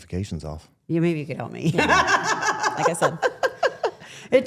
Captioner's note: laughs